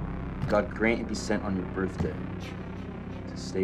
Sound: footsteps; music intensifies

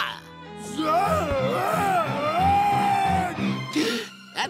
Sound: screaming

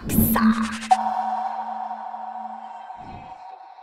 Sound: ding

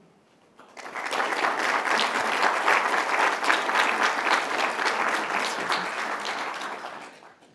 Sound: applause

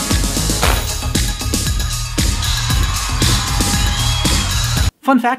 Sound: thworp

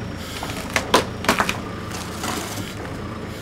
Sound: log creaks

